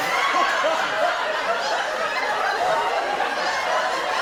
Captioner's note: audience laughter